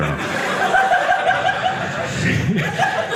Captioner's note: audience laughing